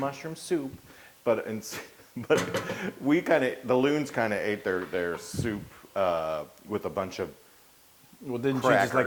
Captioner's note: laugh